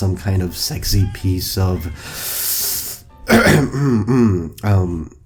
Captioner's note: ahem